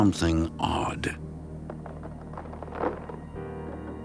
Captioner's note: scratching noise